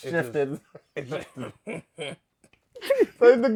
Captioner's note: luaghs